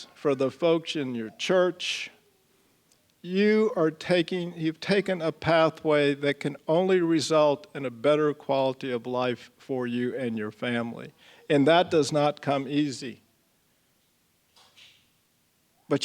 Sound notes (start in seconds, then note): none